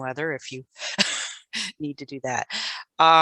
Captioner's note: laughs